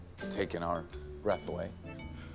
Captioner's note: gasps